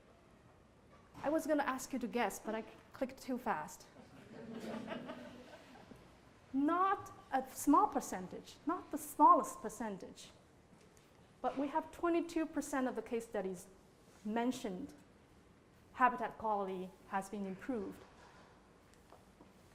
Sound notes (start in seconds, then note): 4.0 laughter